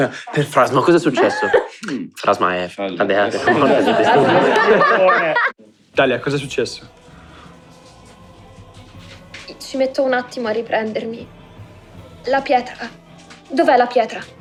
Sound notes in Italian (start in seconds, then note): 3.3 Risate